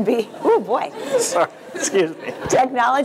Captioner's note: laughter